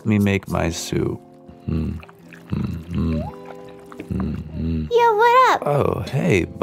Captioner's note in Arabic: يدندن بسرور